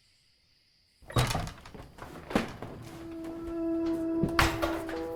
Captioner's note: door clicking open